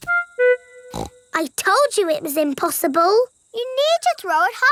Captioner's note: snorts